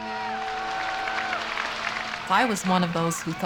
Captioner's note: cheering